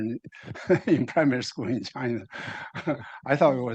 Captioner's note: laughing